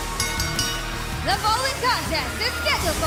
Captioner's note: bell ringing